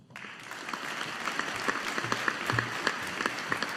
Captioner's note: audience applauding